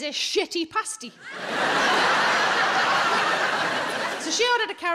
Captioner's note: audience laughing